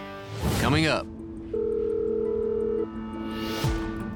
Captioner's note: dialing number